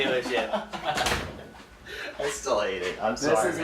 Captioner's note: laughing